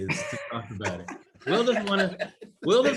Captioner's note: laugh